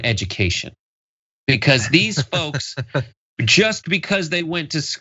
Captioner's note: laugh